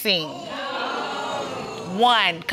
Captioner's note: crowd wooing